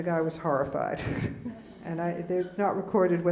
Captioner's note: laughing